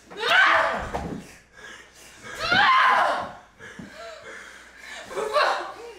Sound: yelling

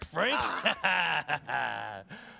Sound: laughs

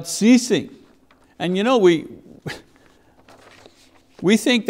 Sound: chuckles

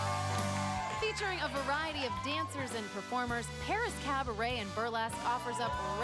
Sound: applause

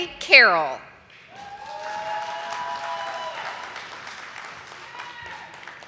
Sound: audience applauding

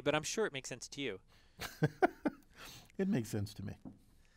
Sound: laugh

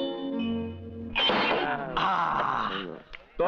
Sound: glass thuds; sighs

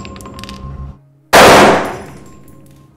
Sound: explosion sound

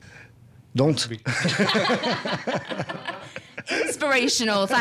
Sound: laughing

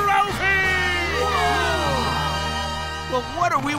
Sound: gasping

